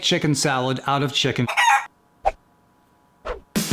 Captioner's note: chicken squawks